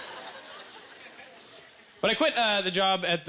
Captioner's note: audience laughter